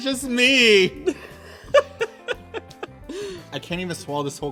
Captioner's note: laughter